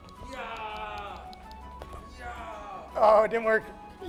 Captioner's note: yelling playfully